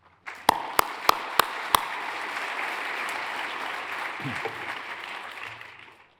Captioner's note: hands clapping; audience applauds